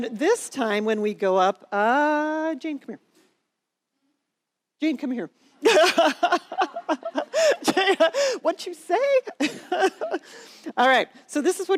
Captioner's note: laughter